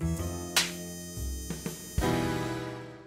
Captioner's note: smacking noise